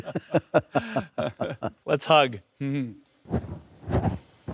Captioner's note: both laughing